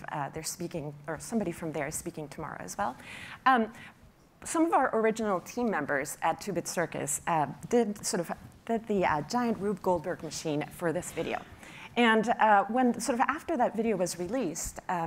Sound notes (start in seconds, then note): none